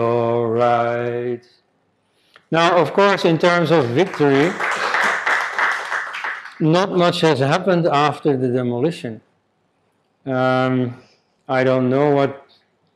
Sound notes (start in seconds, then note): 2.6 crowd clapping